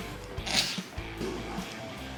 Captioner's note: stifled laugh